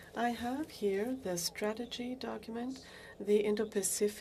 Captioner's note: speaking French